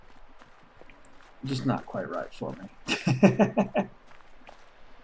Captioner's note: chuckles